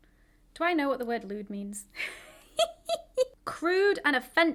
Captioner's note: laughs